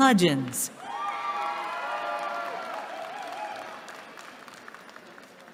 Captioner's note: cheering